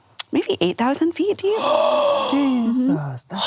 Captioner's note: gasps